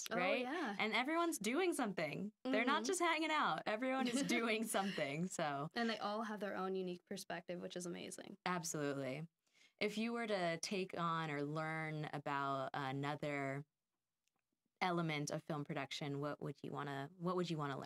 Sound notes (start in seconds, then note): 4.0 laughing